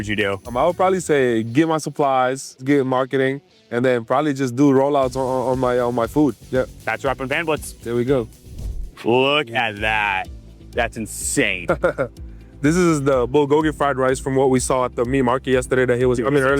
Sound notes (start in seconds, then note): 11.6 laughing